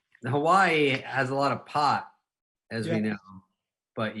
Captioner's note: none